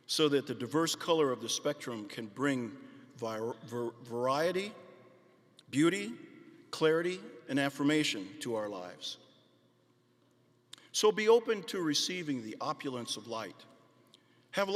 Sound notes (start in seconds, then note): none